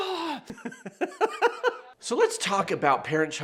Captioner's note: man laughing